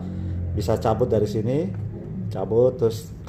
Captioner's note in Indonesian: suara mesin motor